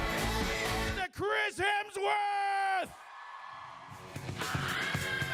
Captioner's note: cheering